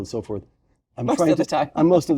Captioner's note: laugh